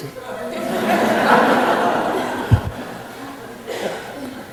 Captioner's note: audience laughing